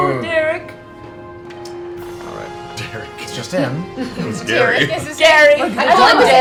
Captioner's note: laughs